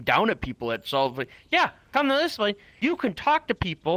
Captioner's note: normal voice